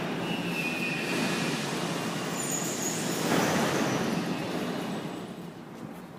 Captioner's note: opening doors